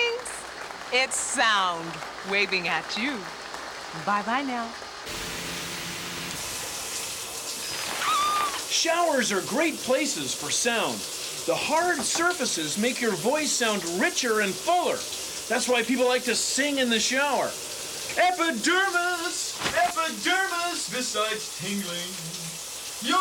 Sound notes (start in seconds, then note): 0.0 normal voice; 6.4 woman screams